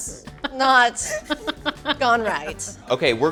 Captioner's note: crew laughing